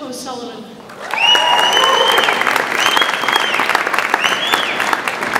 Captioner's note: audience applauds